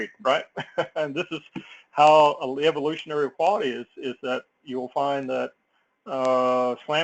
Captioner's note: laugh